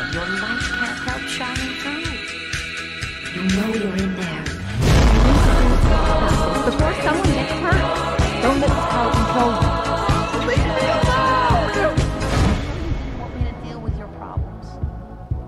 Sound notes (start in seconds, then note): 3.4 faintly, echoing; 4.6 music intensifies; 9.9 groan; 11.9 music quiets